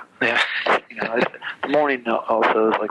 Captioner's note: laughs